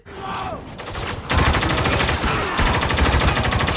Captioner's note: gunfire